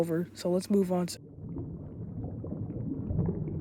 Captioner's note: bubbling